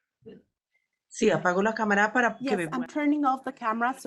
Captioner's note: speaks foreign language